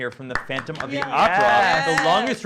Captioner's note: clapping